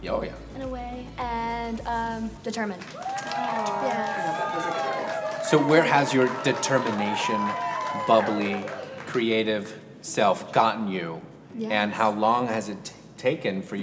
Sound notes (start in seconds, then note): 2.8 audience applauds; 2.9 audience cheers